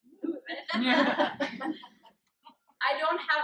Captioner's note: laughter